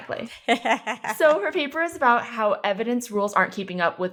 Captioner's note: laughing